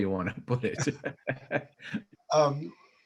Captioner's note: chuckles